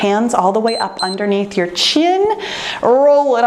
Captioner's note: timer beeps